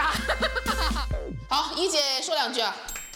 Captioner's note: coughs